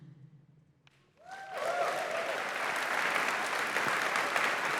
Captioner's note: cheers, applause